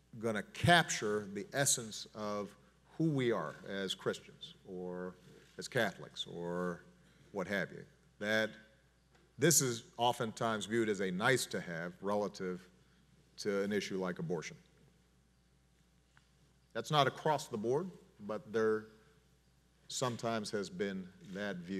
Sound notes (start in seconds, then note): none